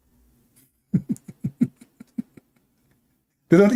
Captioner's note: Ketawa